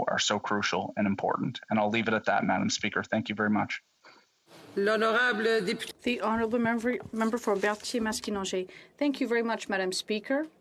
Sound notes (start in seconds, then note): 8.3 speaking French